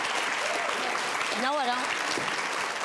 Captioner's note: audience applauding